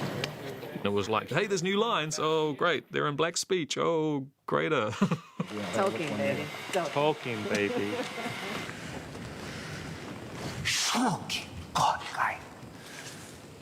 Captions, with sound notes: And it was like, "Hey, there's new lines. Oh, great. They're in Black Speech. Oh, greater." -Tolkien, baby. -Tolkien, baby. [SPEAKING ORCISH]